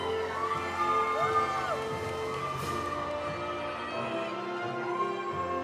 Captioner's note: audience applauding; audience cheering